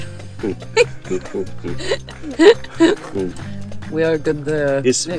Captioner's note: laughter